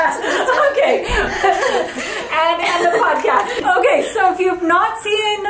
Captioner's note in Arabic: تضحك